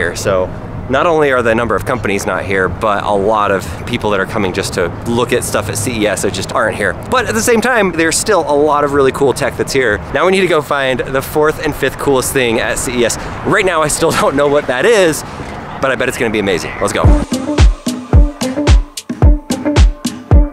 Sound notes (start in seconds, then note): 14.5 chuckles; 16.9 upbeat music